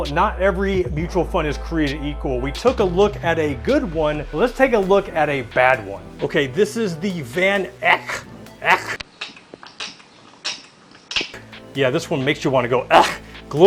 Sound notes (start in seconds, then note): 8.7 kecking